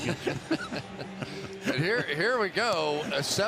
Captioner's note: laughter